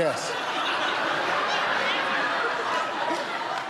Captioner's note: laughter